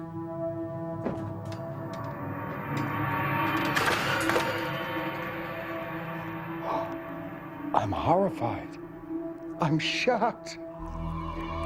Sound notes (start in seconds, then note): 6.6 gasping